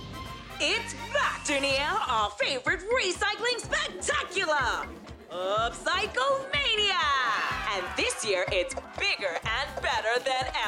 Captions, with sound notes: - It's back, Dunia! Our favourite recycling spectacular! Upcycle Mania! (cheering) And this year, it's bigger and better than ever.